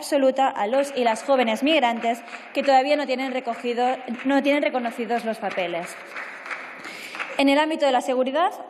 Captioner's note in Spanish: Aplausos